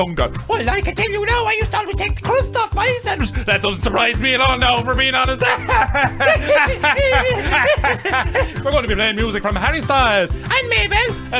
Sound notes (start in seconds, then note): 5.5 continued laughter